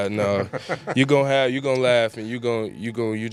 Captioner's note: laughter